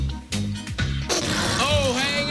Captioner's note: farting noise